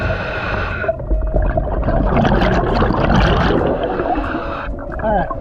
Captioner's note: water burbling